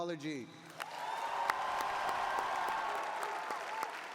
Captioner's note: cheering